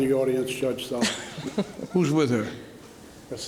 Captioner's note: laughs